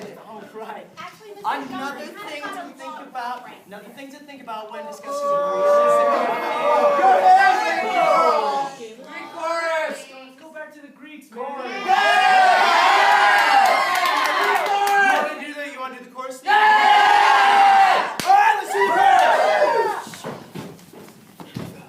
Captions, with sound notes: - All right. Another thing to think about - Actually, Mr. Jones, that hadn't got a lot right there. Another thing to think about when discussing... (Booing) Greek chorus! Let's go back to the Greeks, man! (Cheering) Greek chorus! - You wanna do the, you wanna do the chorus thing again? - (Cheering) All right! Let's do the Greek chorus!